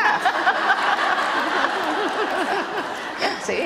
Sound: laughter

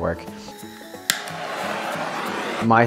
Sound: blowtorch ignites

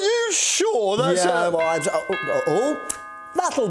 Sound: doorbell rings

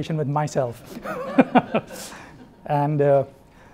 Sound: laughs

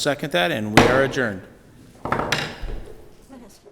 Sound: gavel banging

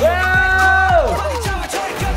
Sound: excited

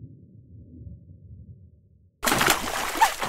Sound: panting

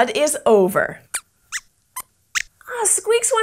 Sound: squeaks squeaks

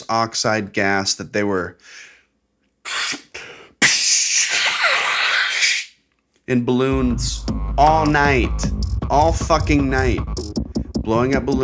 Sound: makes air noise

